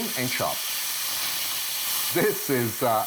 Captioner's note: oil sizzling